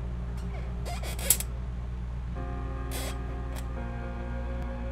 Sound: chair creaking

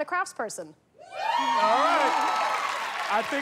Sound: cheers and applause

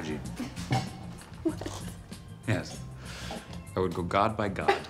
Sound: laughs; laughs

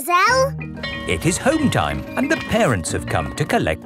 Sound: bell tolling

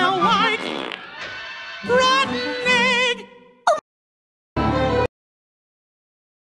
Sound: farts

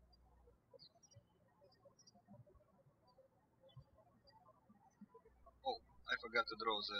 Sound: birds chirping

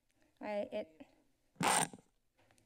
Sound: mic glitch

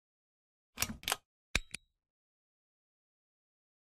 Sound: clicking

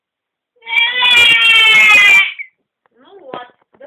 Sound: crying

